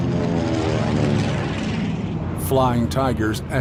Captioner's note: plane engine roars